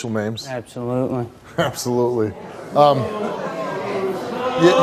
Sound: audience responds

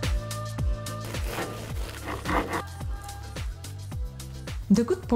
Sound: pastry crunching

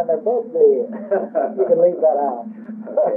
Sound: laughing

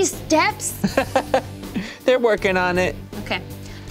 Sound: laughing

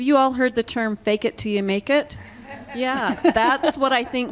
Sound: laughter

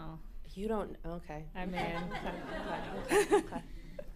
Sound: laughter

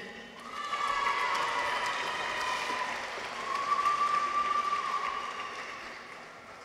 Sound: people cheer; audience applauds

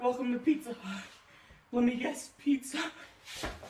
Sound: stressed, out of breath

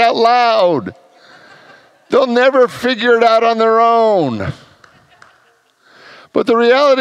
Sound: congregants laugh

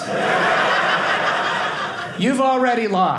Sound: audience laughing

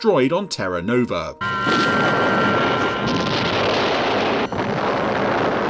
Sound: loud explosions

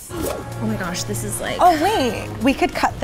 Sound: gasps

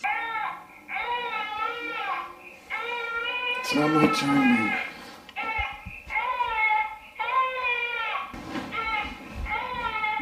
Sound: high pitch sound; baby crying

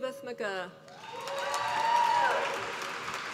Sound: applause

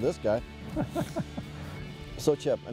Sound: laughs

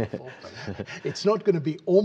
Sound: laughter

